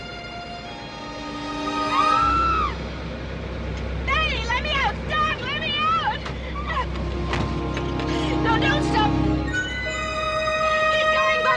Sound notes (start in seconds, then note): 0.0 tense music; 1.8 Betty screams